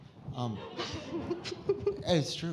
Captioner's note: audience laughing